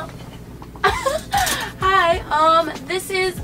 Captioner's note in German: Lachen